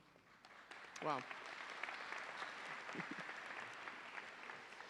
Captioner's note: audience applauding